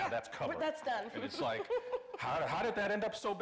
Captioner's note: laughing